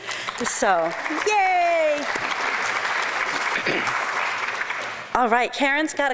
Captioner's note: applause